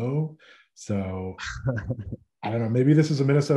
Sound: laughing

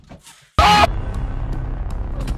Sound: screaming in anger

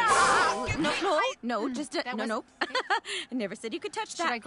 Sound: chuckles

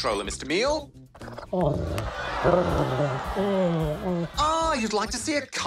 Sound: mutters

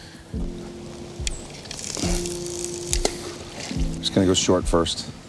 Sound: water splashing; reel clicking

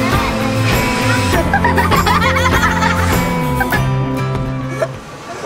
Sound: laughter

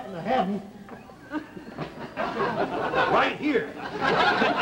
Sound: audience laughter

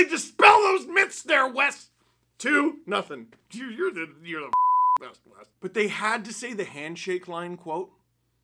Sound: beep

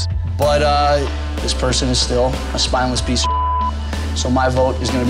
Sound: beep

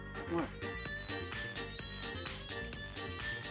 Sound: beeps

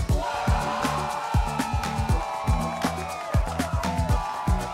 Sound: crowd cheering

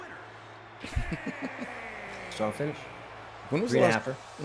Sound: laugh

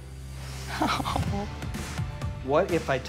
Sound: chuckling

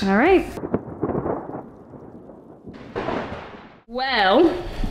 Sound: thunder

